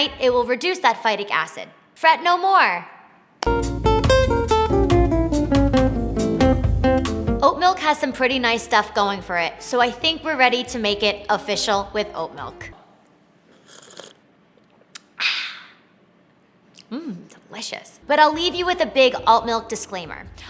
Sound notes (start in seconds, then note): 3.4 upbeat music; 13.4 slurping